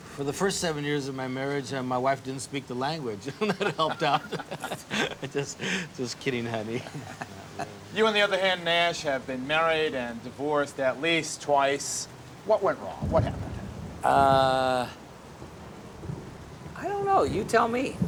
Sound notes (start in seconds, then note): 3.1 chuckles; 8.2 sotto voce; 12.4 thunder rumbling